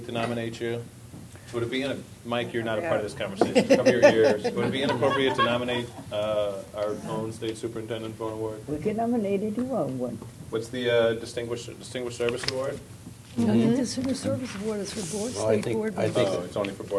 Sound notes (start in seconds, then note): 5.1 laughter